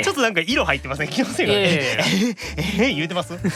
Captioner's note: pant